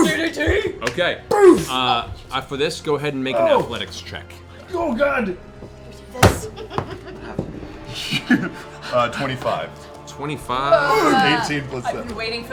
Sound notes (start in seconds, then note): 6.0 laughs